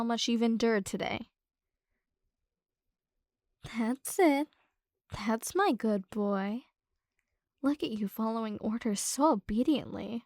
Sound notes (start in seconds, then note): none